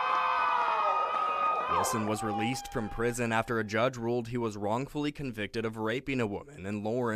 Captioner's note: nats walking out cheering